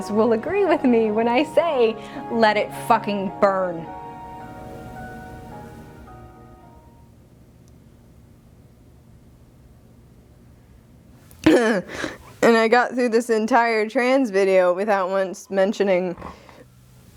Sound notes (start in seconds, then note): 11.4 clears Throat